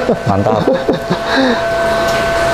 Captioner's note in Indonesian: tertawa kecil; menghela nafas; suara mesin